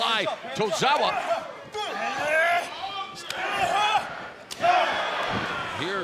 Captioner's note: wrestlers shouting